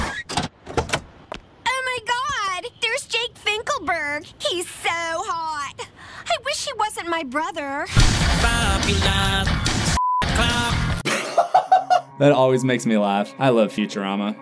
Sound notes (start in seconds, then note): 11.0 laughter